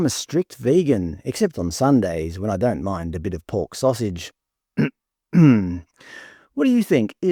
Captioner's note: clears throat